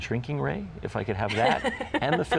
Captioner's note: laughs